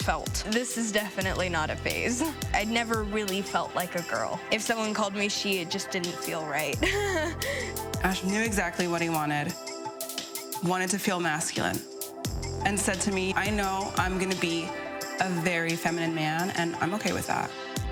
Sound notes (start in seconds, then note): 6.8 laughs